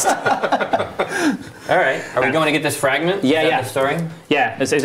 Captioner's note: laughter